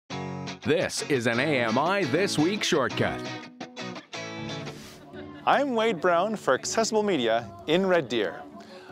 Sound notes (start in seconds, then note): 0.8 voiceover